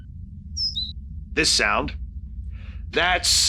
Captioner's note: tweeting sound